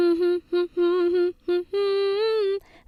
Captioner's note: Joanne hums "What makes you beautiful."